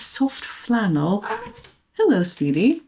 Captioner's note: cat chirrps